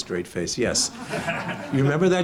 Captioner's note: audience laughs